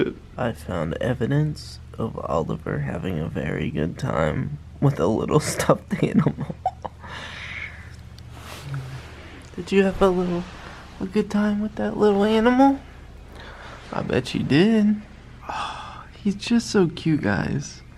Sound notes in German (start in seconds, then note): 5.4 lacht